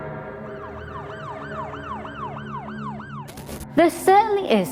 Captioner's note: police sirens wailing